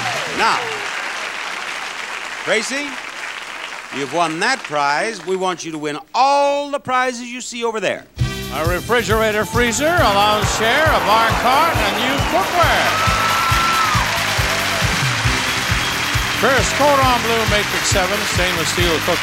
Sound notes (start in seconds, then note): 13.1 audience cheering